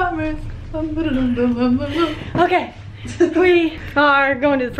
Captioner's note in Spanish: tarareando musica